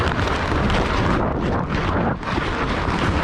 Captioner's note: skating and wind noise